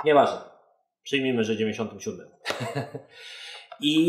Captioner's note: laughs